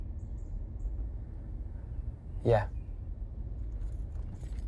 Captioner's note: birds chirping